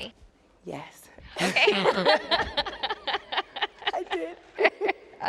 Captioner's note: laughing